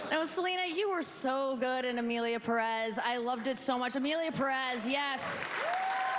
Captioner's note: applause